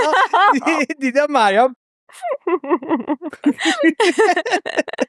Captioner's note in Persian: خنده